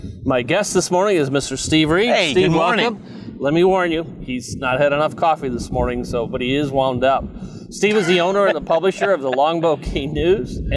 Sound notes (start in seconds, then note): 7.8 laughing